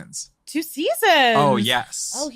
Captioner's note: laughing